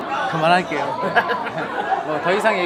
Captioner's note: laughing